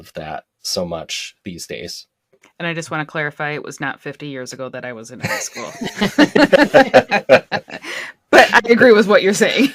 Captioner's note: laughter